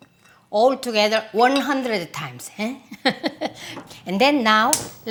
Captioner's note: laughs